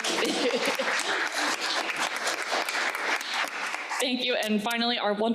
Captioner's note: crowd applauding